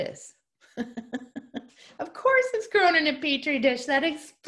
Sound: laughter

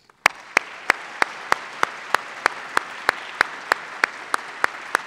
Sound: applause

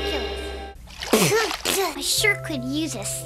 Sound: spitting

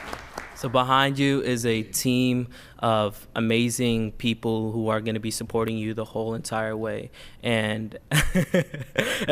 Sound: applause

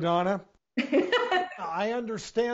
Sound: laughing

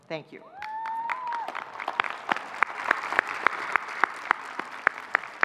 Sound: audience clapping

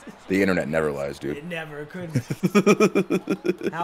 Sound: laugh

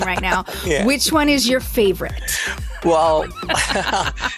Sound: laughs

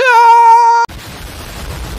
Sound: explosion

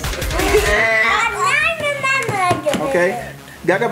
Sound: laughs

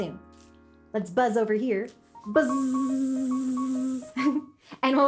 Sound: buzzes

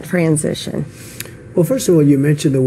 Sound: Trump lip smack 👄

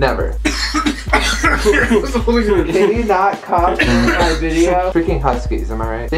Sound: off camera coughing throughout

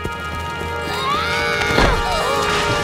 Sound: screaming

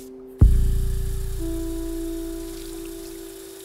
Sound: water running; gentle electronic music

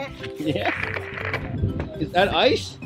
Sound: laughs

